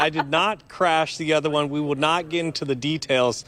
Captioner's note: laughter